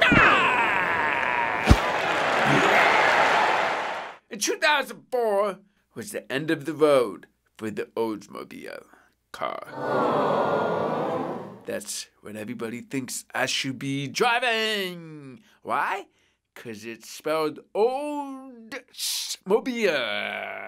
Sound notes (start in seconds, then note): 0.0 roaring crowd; 1.7 applause; 9.7 awww